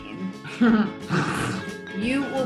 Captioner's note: laughs; pleasant music